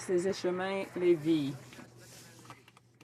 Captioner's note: some Applause